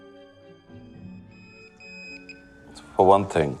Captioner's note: soft music; ambulance in distance; pager beeping